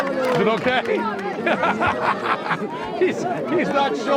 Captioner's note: penn laughing